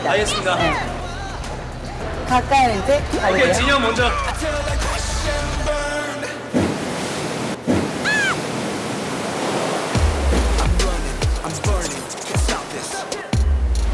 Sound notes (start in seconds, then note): 6.6 flush